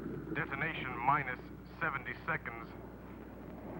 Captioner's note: man On Radio